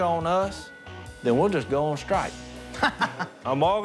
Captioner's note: laughs